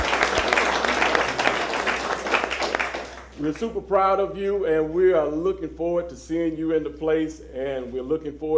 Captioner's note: applause